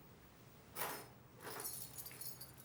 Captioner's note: keys jingling